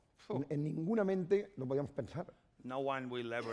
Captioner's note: speaking spanish